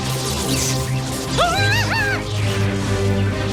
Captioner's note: The Witch screams; intense suspenseful music